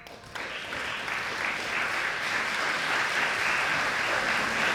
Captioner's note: clapping and cheering